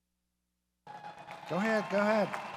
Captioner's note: audience cheers